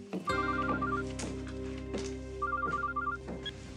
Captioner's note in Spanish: suena el celular